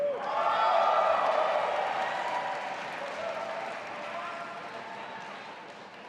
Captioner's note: audience applauding and cheering